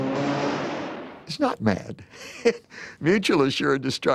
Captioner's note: laughs